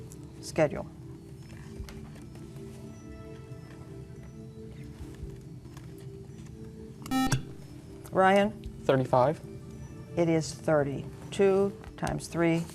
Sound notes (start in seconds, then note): 7.1 buzzer